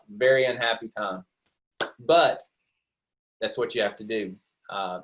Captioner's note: claps hands together